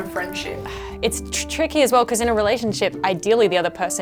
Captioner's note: sighs